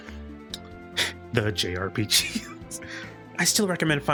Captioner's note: chuckle